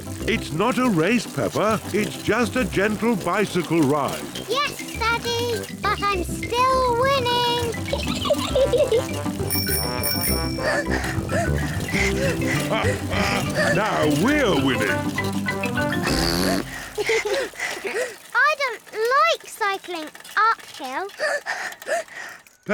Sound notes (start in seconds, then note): 8.6 giggles; 9.4 rings bell and pants; 12.0 chuckles; 15.7 blows raspberry and giggles; 21.2 panting